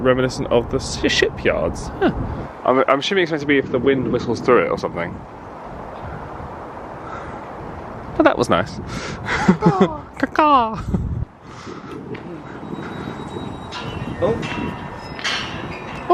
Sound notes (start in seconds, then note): 5.4 light distant traffic; 9.2 laughs; 12.6 chimes jingling